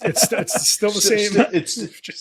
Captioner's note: laughing